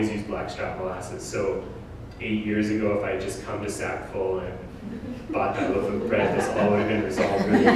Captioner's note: audience: Laughter